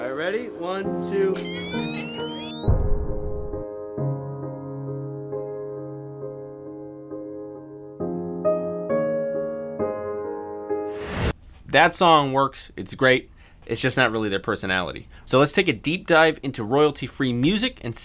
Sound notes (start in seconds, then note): 1.4 flash whining; 2.9 poignant slow piano music